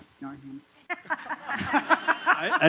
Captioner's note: laughter